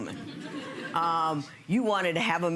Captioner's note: audience chuckling